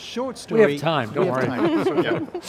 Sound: laughs

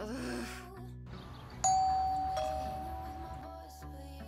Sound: doorbell rings

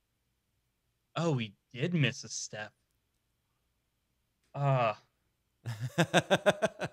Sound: laughing

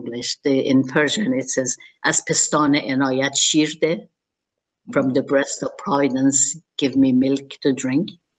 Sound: speaking Persian

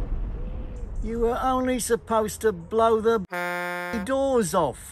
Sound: car horn

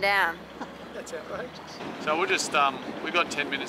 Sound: chuckles

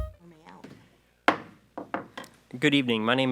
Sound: gavel knocks

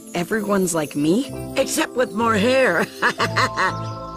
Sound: laughs

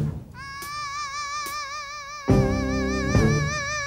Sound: vocalizing

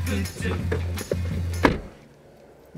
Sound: car door closes

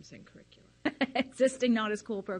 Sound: laughs

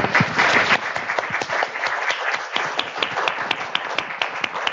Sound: applause

